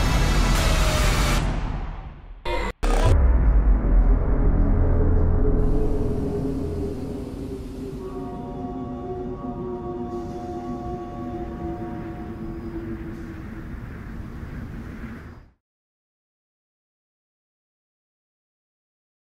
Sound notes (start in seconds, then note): 8.2 train whistle in the distance